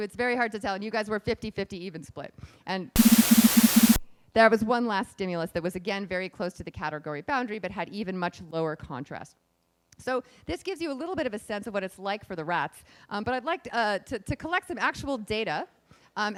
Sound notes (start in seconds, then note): 2.9 beeping